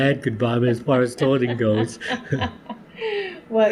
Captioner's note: laughter